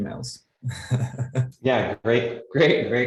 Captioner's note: laughs